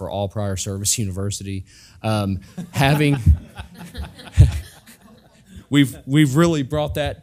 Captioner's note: laugh